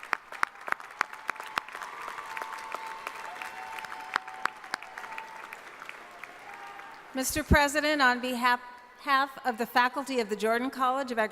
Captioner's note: applause